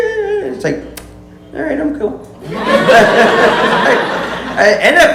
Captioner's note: kisses